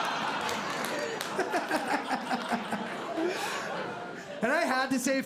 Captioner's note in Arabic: ضحك; يضحك